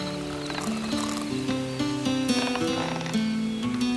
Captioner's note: rope creaks